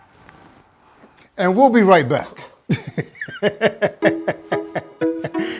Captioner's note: laughs